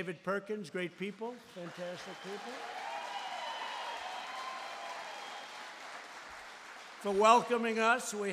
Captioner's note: applause